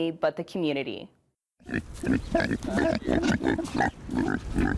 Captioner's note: pigs grunting